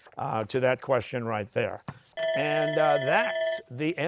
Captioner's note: bell ringing